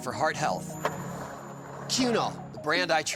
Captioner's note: skateboard wheels roaring